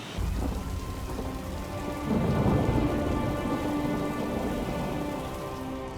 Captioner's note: somber music; fire crackles